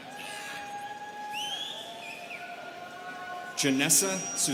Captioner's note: students cheering